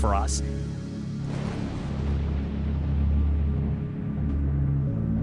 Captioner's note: thunder